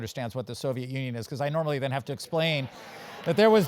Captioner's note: laugh